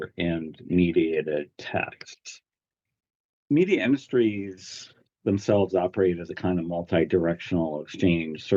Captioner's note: none